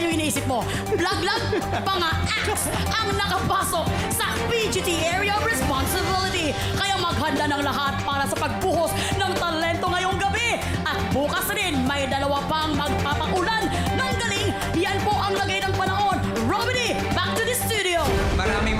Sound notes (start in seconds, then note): 0.8 laughs